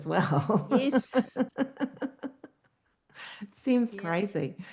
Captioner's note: laughing